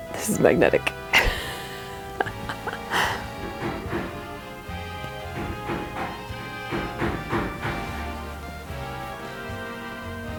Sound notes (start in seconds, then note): 0.2 laughs; 3.0 loud hammering from outside